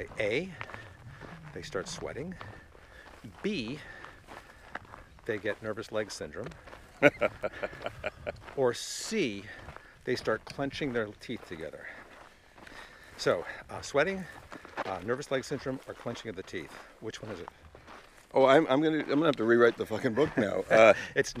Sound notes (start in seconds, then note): 6.9 laughing